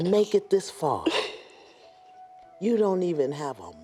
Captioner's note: sobs